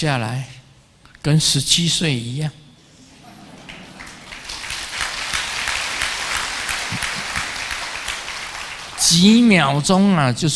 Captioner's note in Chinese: 眾鼓掌